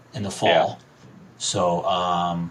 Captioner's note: none